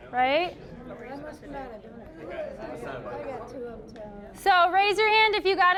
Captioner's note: general chatter